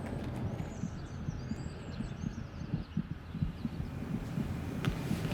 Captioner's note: heartbeat